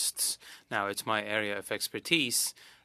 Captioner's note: speaking French